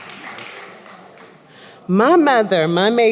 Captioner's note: applause